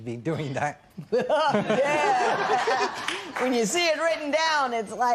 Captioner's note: laughing